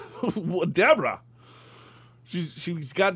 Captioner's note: laughs